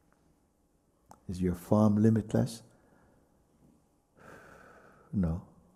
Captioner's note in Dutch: blaast uit